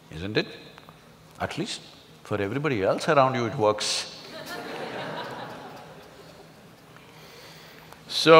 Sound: laughter

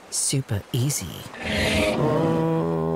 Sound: groan

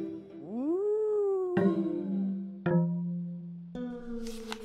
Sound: ghost noise

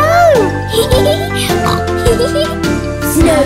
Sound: giggling; snort; giggling

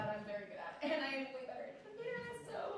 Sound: none

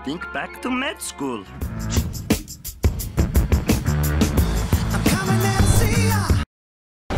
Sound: motion control noises

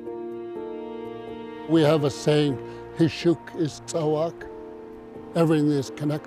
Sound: speaks native language

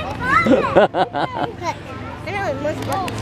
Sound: laughs

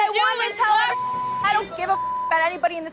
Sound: beep

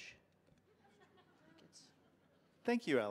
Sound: audience laughing

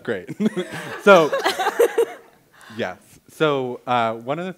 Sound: laughter; laughs

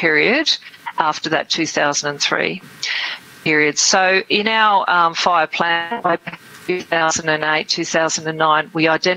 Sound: audio distorts

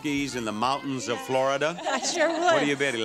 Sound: laughs

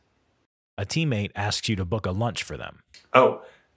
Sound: voiceover

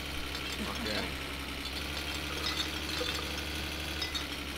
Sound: bottles clinking, belches

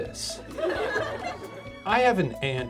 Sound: audience laughs

